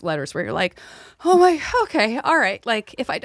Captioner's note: inhales